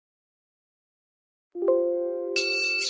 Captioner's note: gong